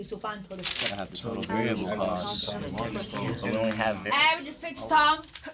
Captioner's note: students murmur